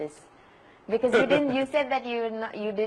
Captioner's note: Sadhguru Laughs